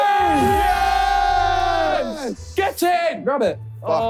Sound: group cheering

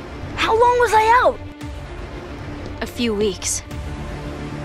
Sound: none

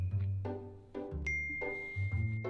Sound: phone dings

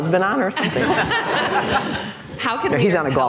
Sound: laughter

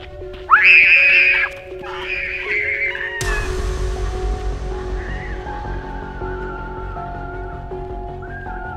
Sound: screaming and Running

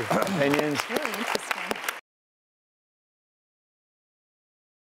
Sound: audience claps

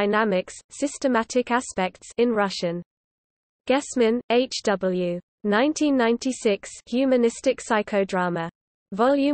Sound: in Russian

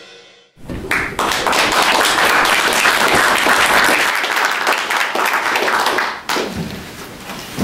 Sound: applauses

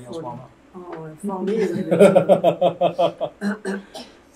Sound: laughter

